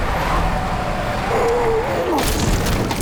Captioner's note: sputters